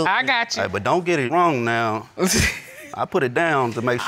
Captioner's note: laughs